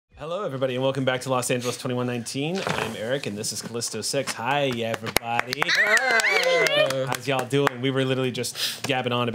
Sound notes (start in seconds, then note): 5.7 overlapping chatter